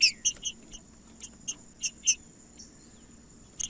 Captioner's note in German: trinca ferro cantando